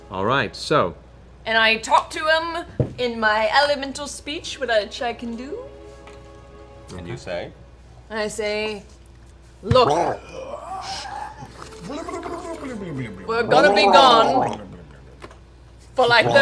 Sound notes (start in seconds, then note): 9.7 gargles water during speech